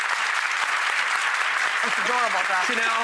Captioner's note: audience applause